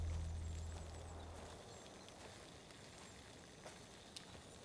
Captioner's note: birds chirping